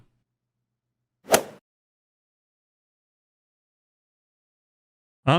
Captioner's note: golf swing sound effect